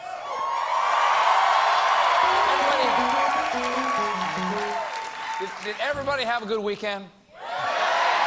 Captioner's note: cheers and applause